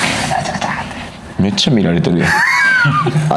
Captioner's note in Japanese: 鼻息; 笑い